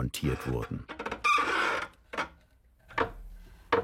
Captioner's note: squeaking, creaking